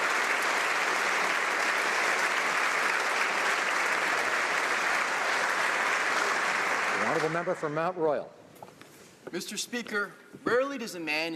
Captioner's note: applause